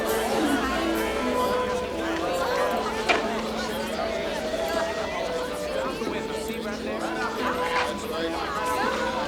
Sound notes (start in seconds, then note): 0.0 faint classical music; 0.0 townsfolk chatter